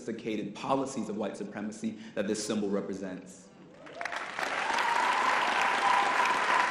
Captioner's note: audience applause